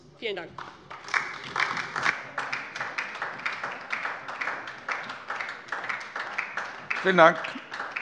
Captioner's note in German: Beifall DIE LINKE